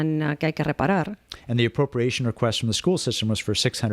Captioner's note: Hablando ingl\s